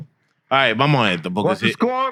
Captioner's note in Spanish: Hablando en idioma extranjero